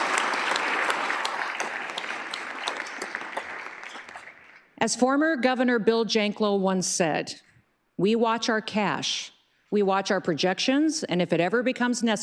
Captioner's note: applause